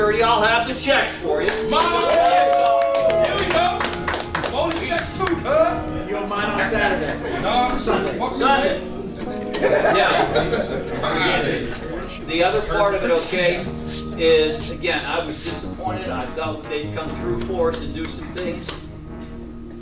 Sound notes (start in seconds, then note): 1.4 players cheer!; 4.3 still cheering!; 9.1 players are laughing